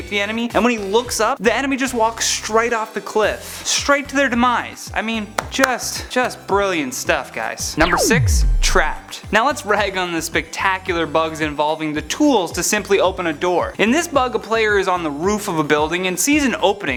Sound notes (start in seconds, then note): 5.4 claps